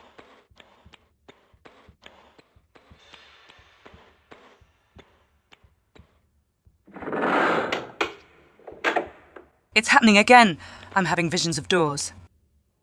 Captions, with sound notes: *LOUD LEVER SOUND* *sound of a door* It's happening again, I'm having visions of doors.